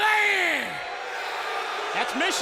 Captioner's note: crowd boos